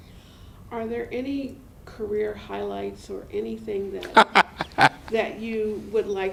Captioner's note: laughter